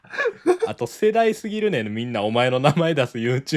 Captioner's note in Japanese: 笑い